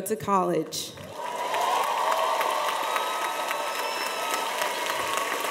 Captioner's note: cheers and applause